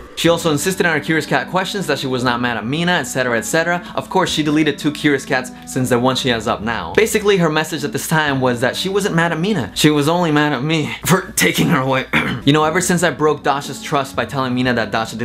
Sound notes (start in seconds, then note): 12.0 fake coughs